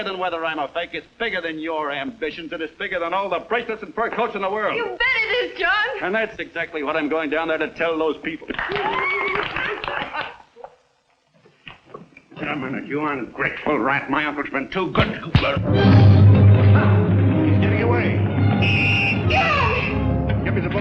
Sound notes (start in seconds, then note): 8.5 applauding; 14.9 thumping; 15.4 suspenseful music; 18.3 whistle blowing